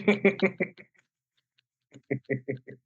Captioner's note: laughs